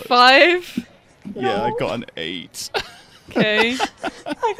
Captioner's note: laughs